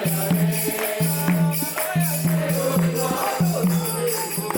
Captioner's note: crowd chanting